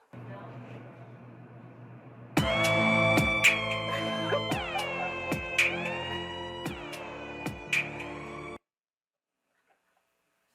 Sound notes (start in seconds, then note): 3.4 laughs